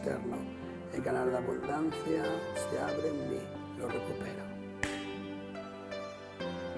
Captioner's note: click of the fingers